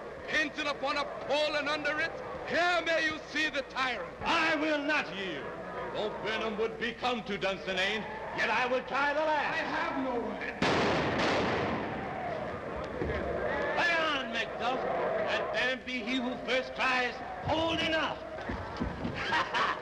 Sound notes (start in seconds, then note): 10.6 explodes